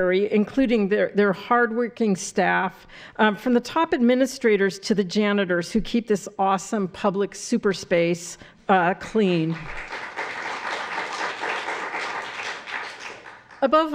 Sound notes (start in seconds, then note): 9.5 applause